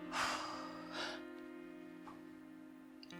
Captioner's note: sighing